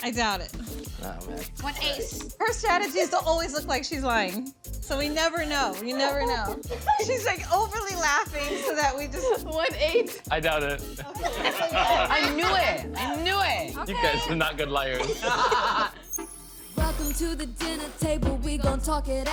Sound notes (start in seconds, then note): 14.9 laughter